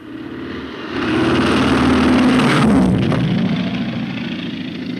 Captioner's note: airplane roaring